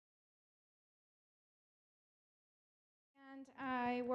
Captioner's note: silence